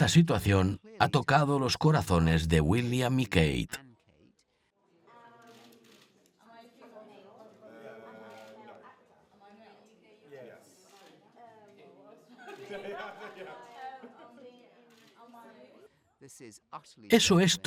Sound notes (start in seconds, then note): 12.5 both laughing